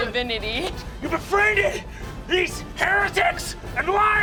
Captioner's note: shouting